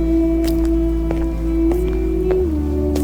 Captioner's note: loud footsteps on the pavement